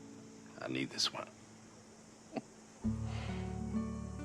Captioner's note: chuckles